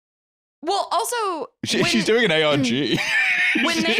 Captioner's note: laughs